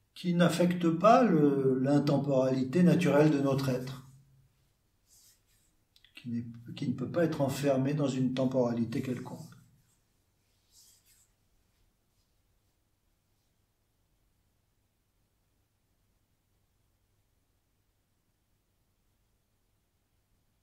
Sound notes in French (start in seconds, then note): 13.4 silence